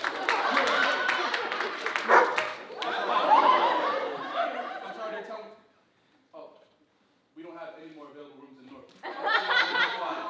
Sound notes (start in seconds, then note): 2.0 dog barking; 9.0 audience laughing